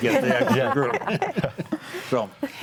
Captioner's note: group laughs